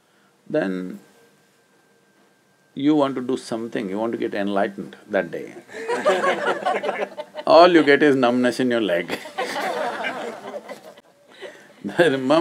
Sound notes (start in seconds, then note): 5.7 laughter; 9.0 laughter